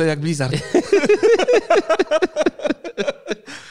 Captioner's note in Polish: śmiech